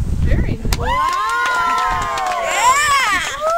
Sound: cheering

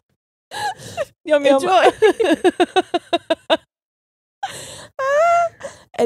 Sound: both laughing

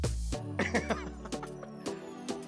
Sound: laughing

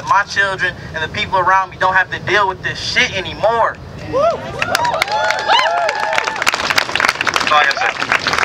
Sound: cheering

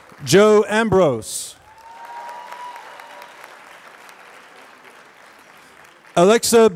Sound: applause

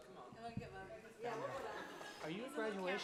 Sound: people chattering; laughter

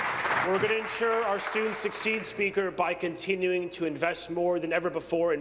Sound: applause

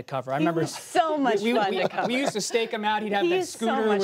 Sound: laughter

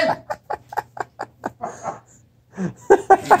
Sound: laughter

